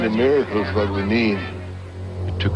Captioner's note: talking, drilling sounds